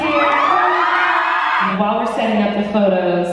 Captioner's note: cheering